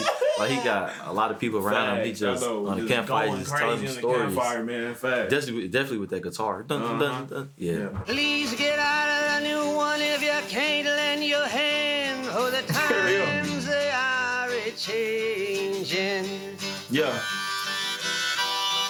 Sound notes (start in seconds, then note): 6.5 imitating guitar